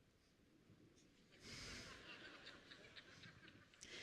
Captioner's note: laughter